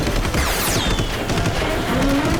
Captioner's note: car backfire; gunshot